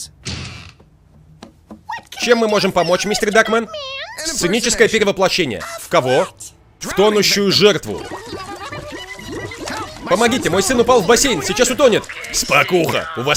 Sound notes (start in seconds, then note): 6.9 spluttering; 11.8 raspy